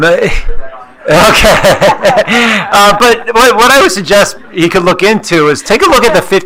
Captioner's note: laughs